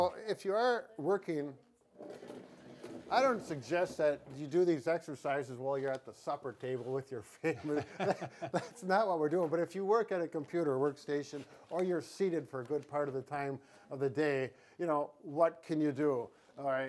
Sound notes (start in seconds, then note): 7.4 laughs